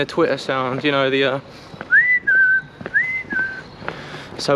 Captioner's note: whistles